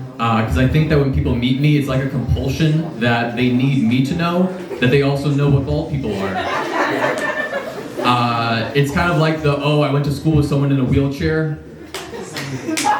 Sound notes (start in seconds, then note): 6.1 laughs; 11.9 laughs and applause